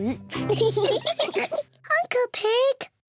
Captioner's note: all giggle